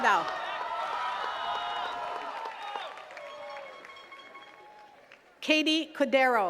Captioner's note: attendees cheering and clapping